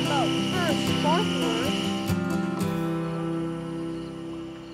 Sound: kids chattering

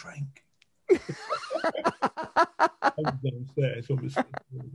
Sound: men laughing

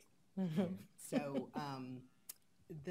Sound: laughs

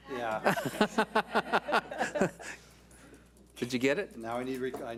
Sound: board laughs

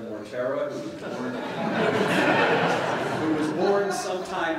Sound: laughter

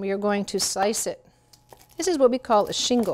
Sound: knife slicing

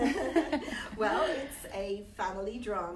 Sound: laughing

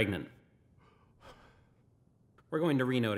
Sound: dad gasps

